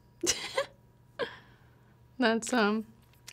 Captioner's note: woman laughs